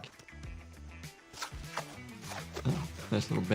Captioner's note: upbeat music; bandage swishing